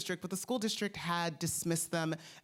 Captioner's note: none